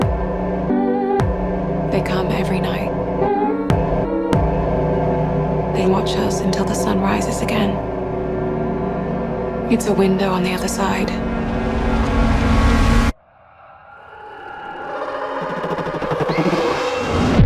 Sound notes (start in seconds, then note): 13.5 voices echoing; 15.1 distant trilling and growling